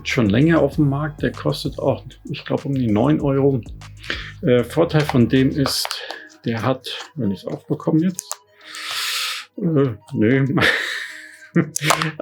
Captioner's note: laugh